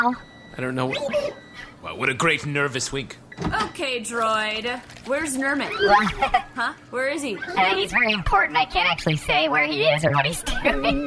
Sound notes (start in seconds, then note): 1.8 sound of mechanical winking; 5.8 laughs nervously